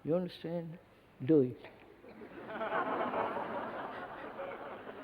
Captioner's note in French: Rires